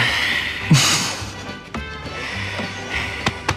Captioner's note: laughs